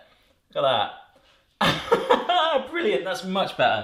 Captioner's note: laughs